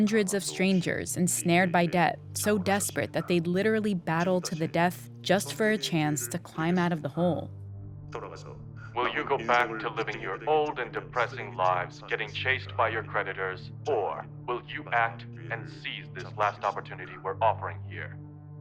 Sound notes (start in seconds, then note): 7.6 soundbite of tv show, "squid game"